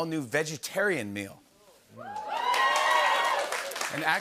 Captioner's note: cheers and applause